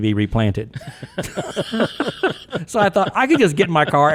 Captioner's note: podcasters laughing